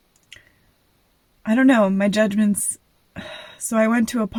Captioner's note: sigh